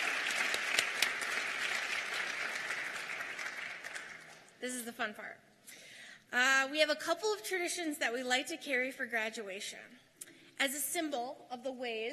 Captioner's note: applause